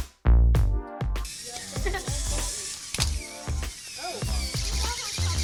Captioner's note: robot whirring